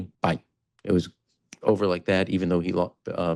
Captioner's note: clicks fingers